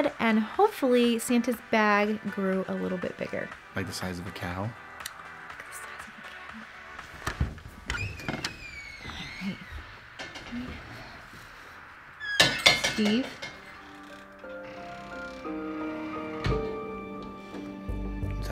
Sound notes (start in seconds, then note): 5.4 clicks; 13.2 dramatic music